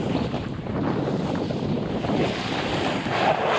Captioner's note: windy